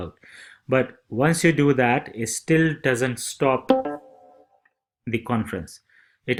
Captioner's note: computer Ding